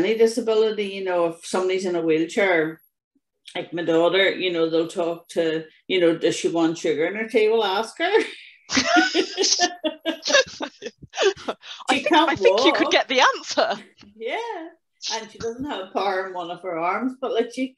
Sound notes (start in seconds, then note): 8.7 both laugh